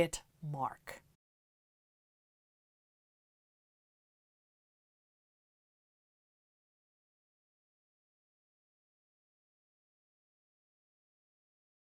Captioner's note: no Sound Present